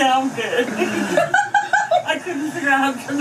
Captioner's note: laughs